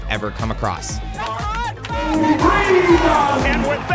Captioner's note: yelling